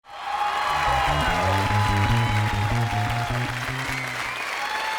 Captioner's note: audience cheering